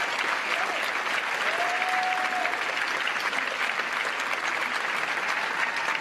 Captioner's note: cheers & applause